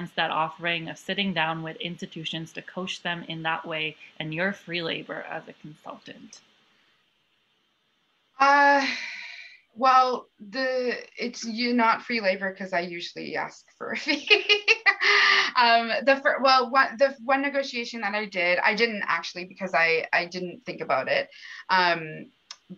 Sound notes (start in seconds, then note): 14.1 laughter